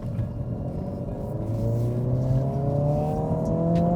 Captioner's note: engine roaring